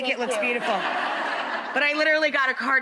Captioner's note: audience chuckles